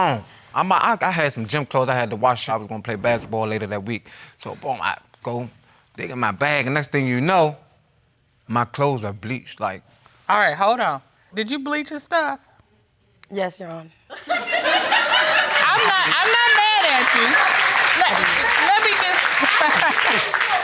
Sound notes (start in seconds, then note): 14.2 audience laughing; 16.8 audience applauding